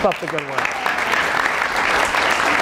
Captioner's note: applause